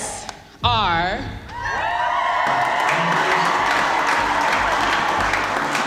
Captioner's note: cheering, applause